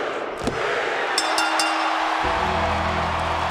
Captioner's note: bell rings; ominous music